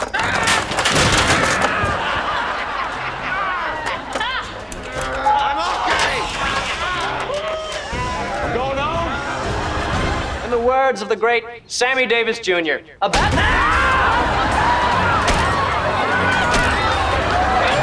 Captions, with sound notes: [screaming] [laughing] [groaning] I'm okay! [laughing] I'm going home! In the words of the great Sammy Davis Jr, a bat-- [screaming]